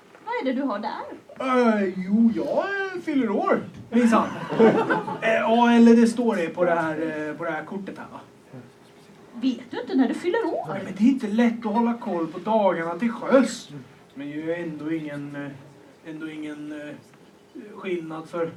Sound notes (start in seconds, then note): 4.1 laughter